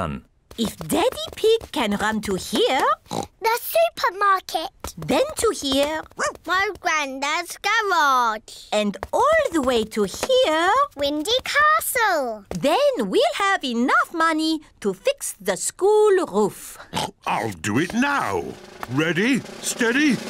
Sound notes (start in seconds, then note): 3.0 oinks; 5.9 barks; 16.9 oinks